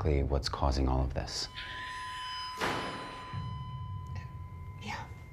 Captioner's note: door slams